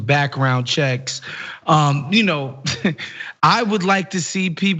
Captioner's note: laugh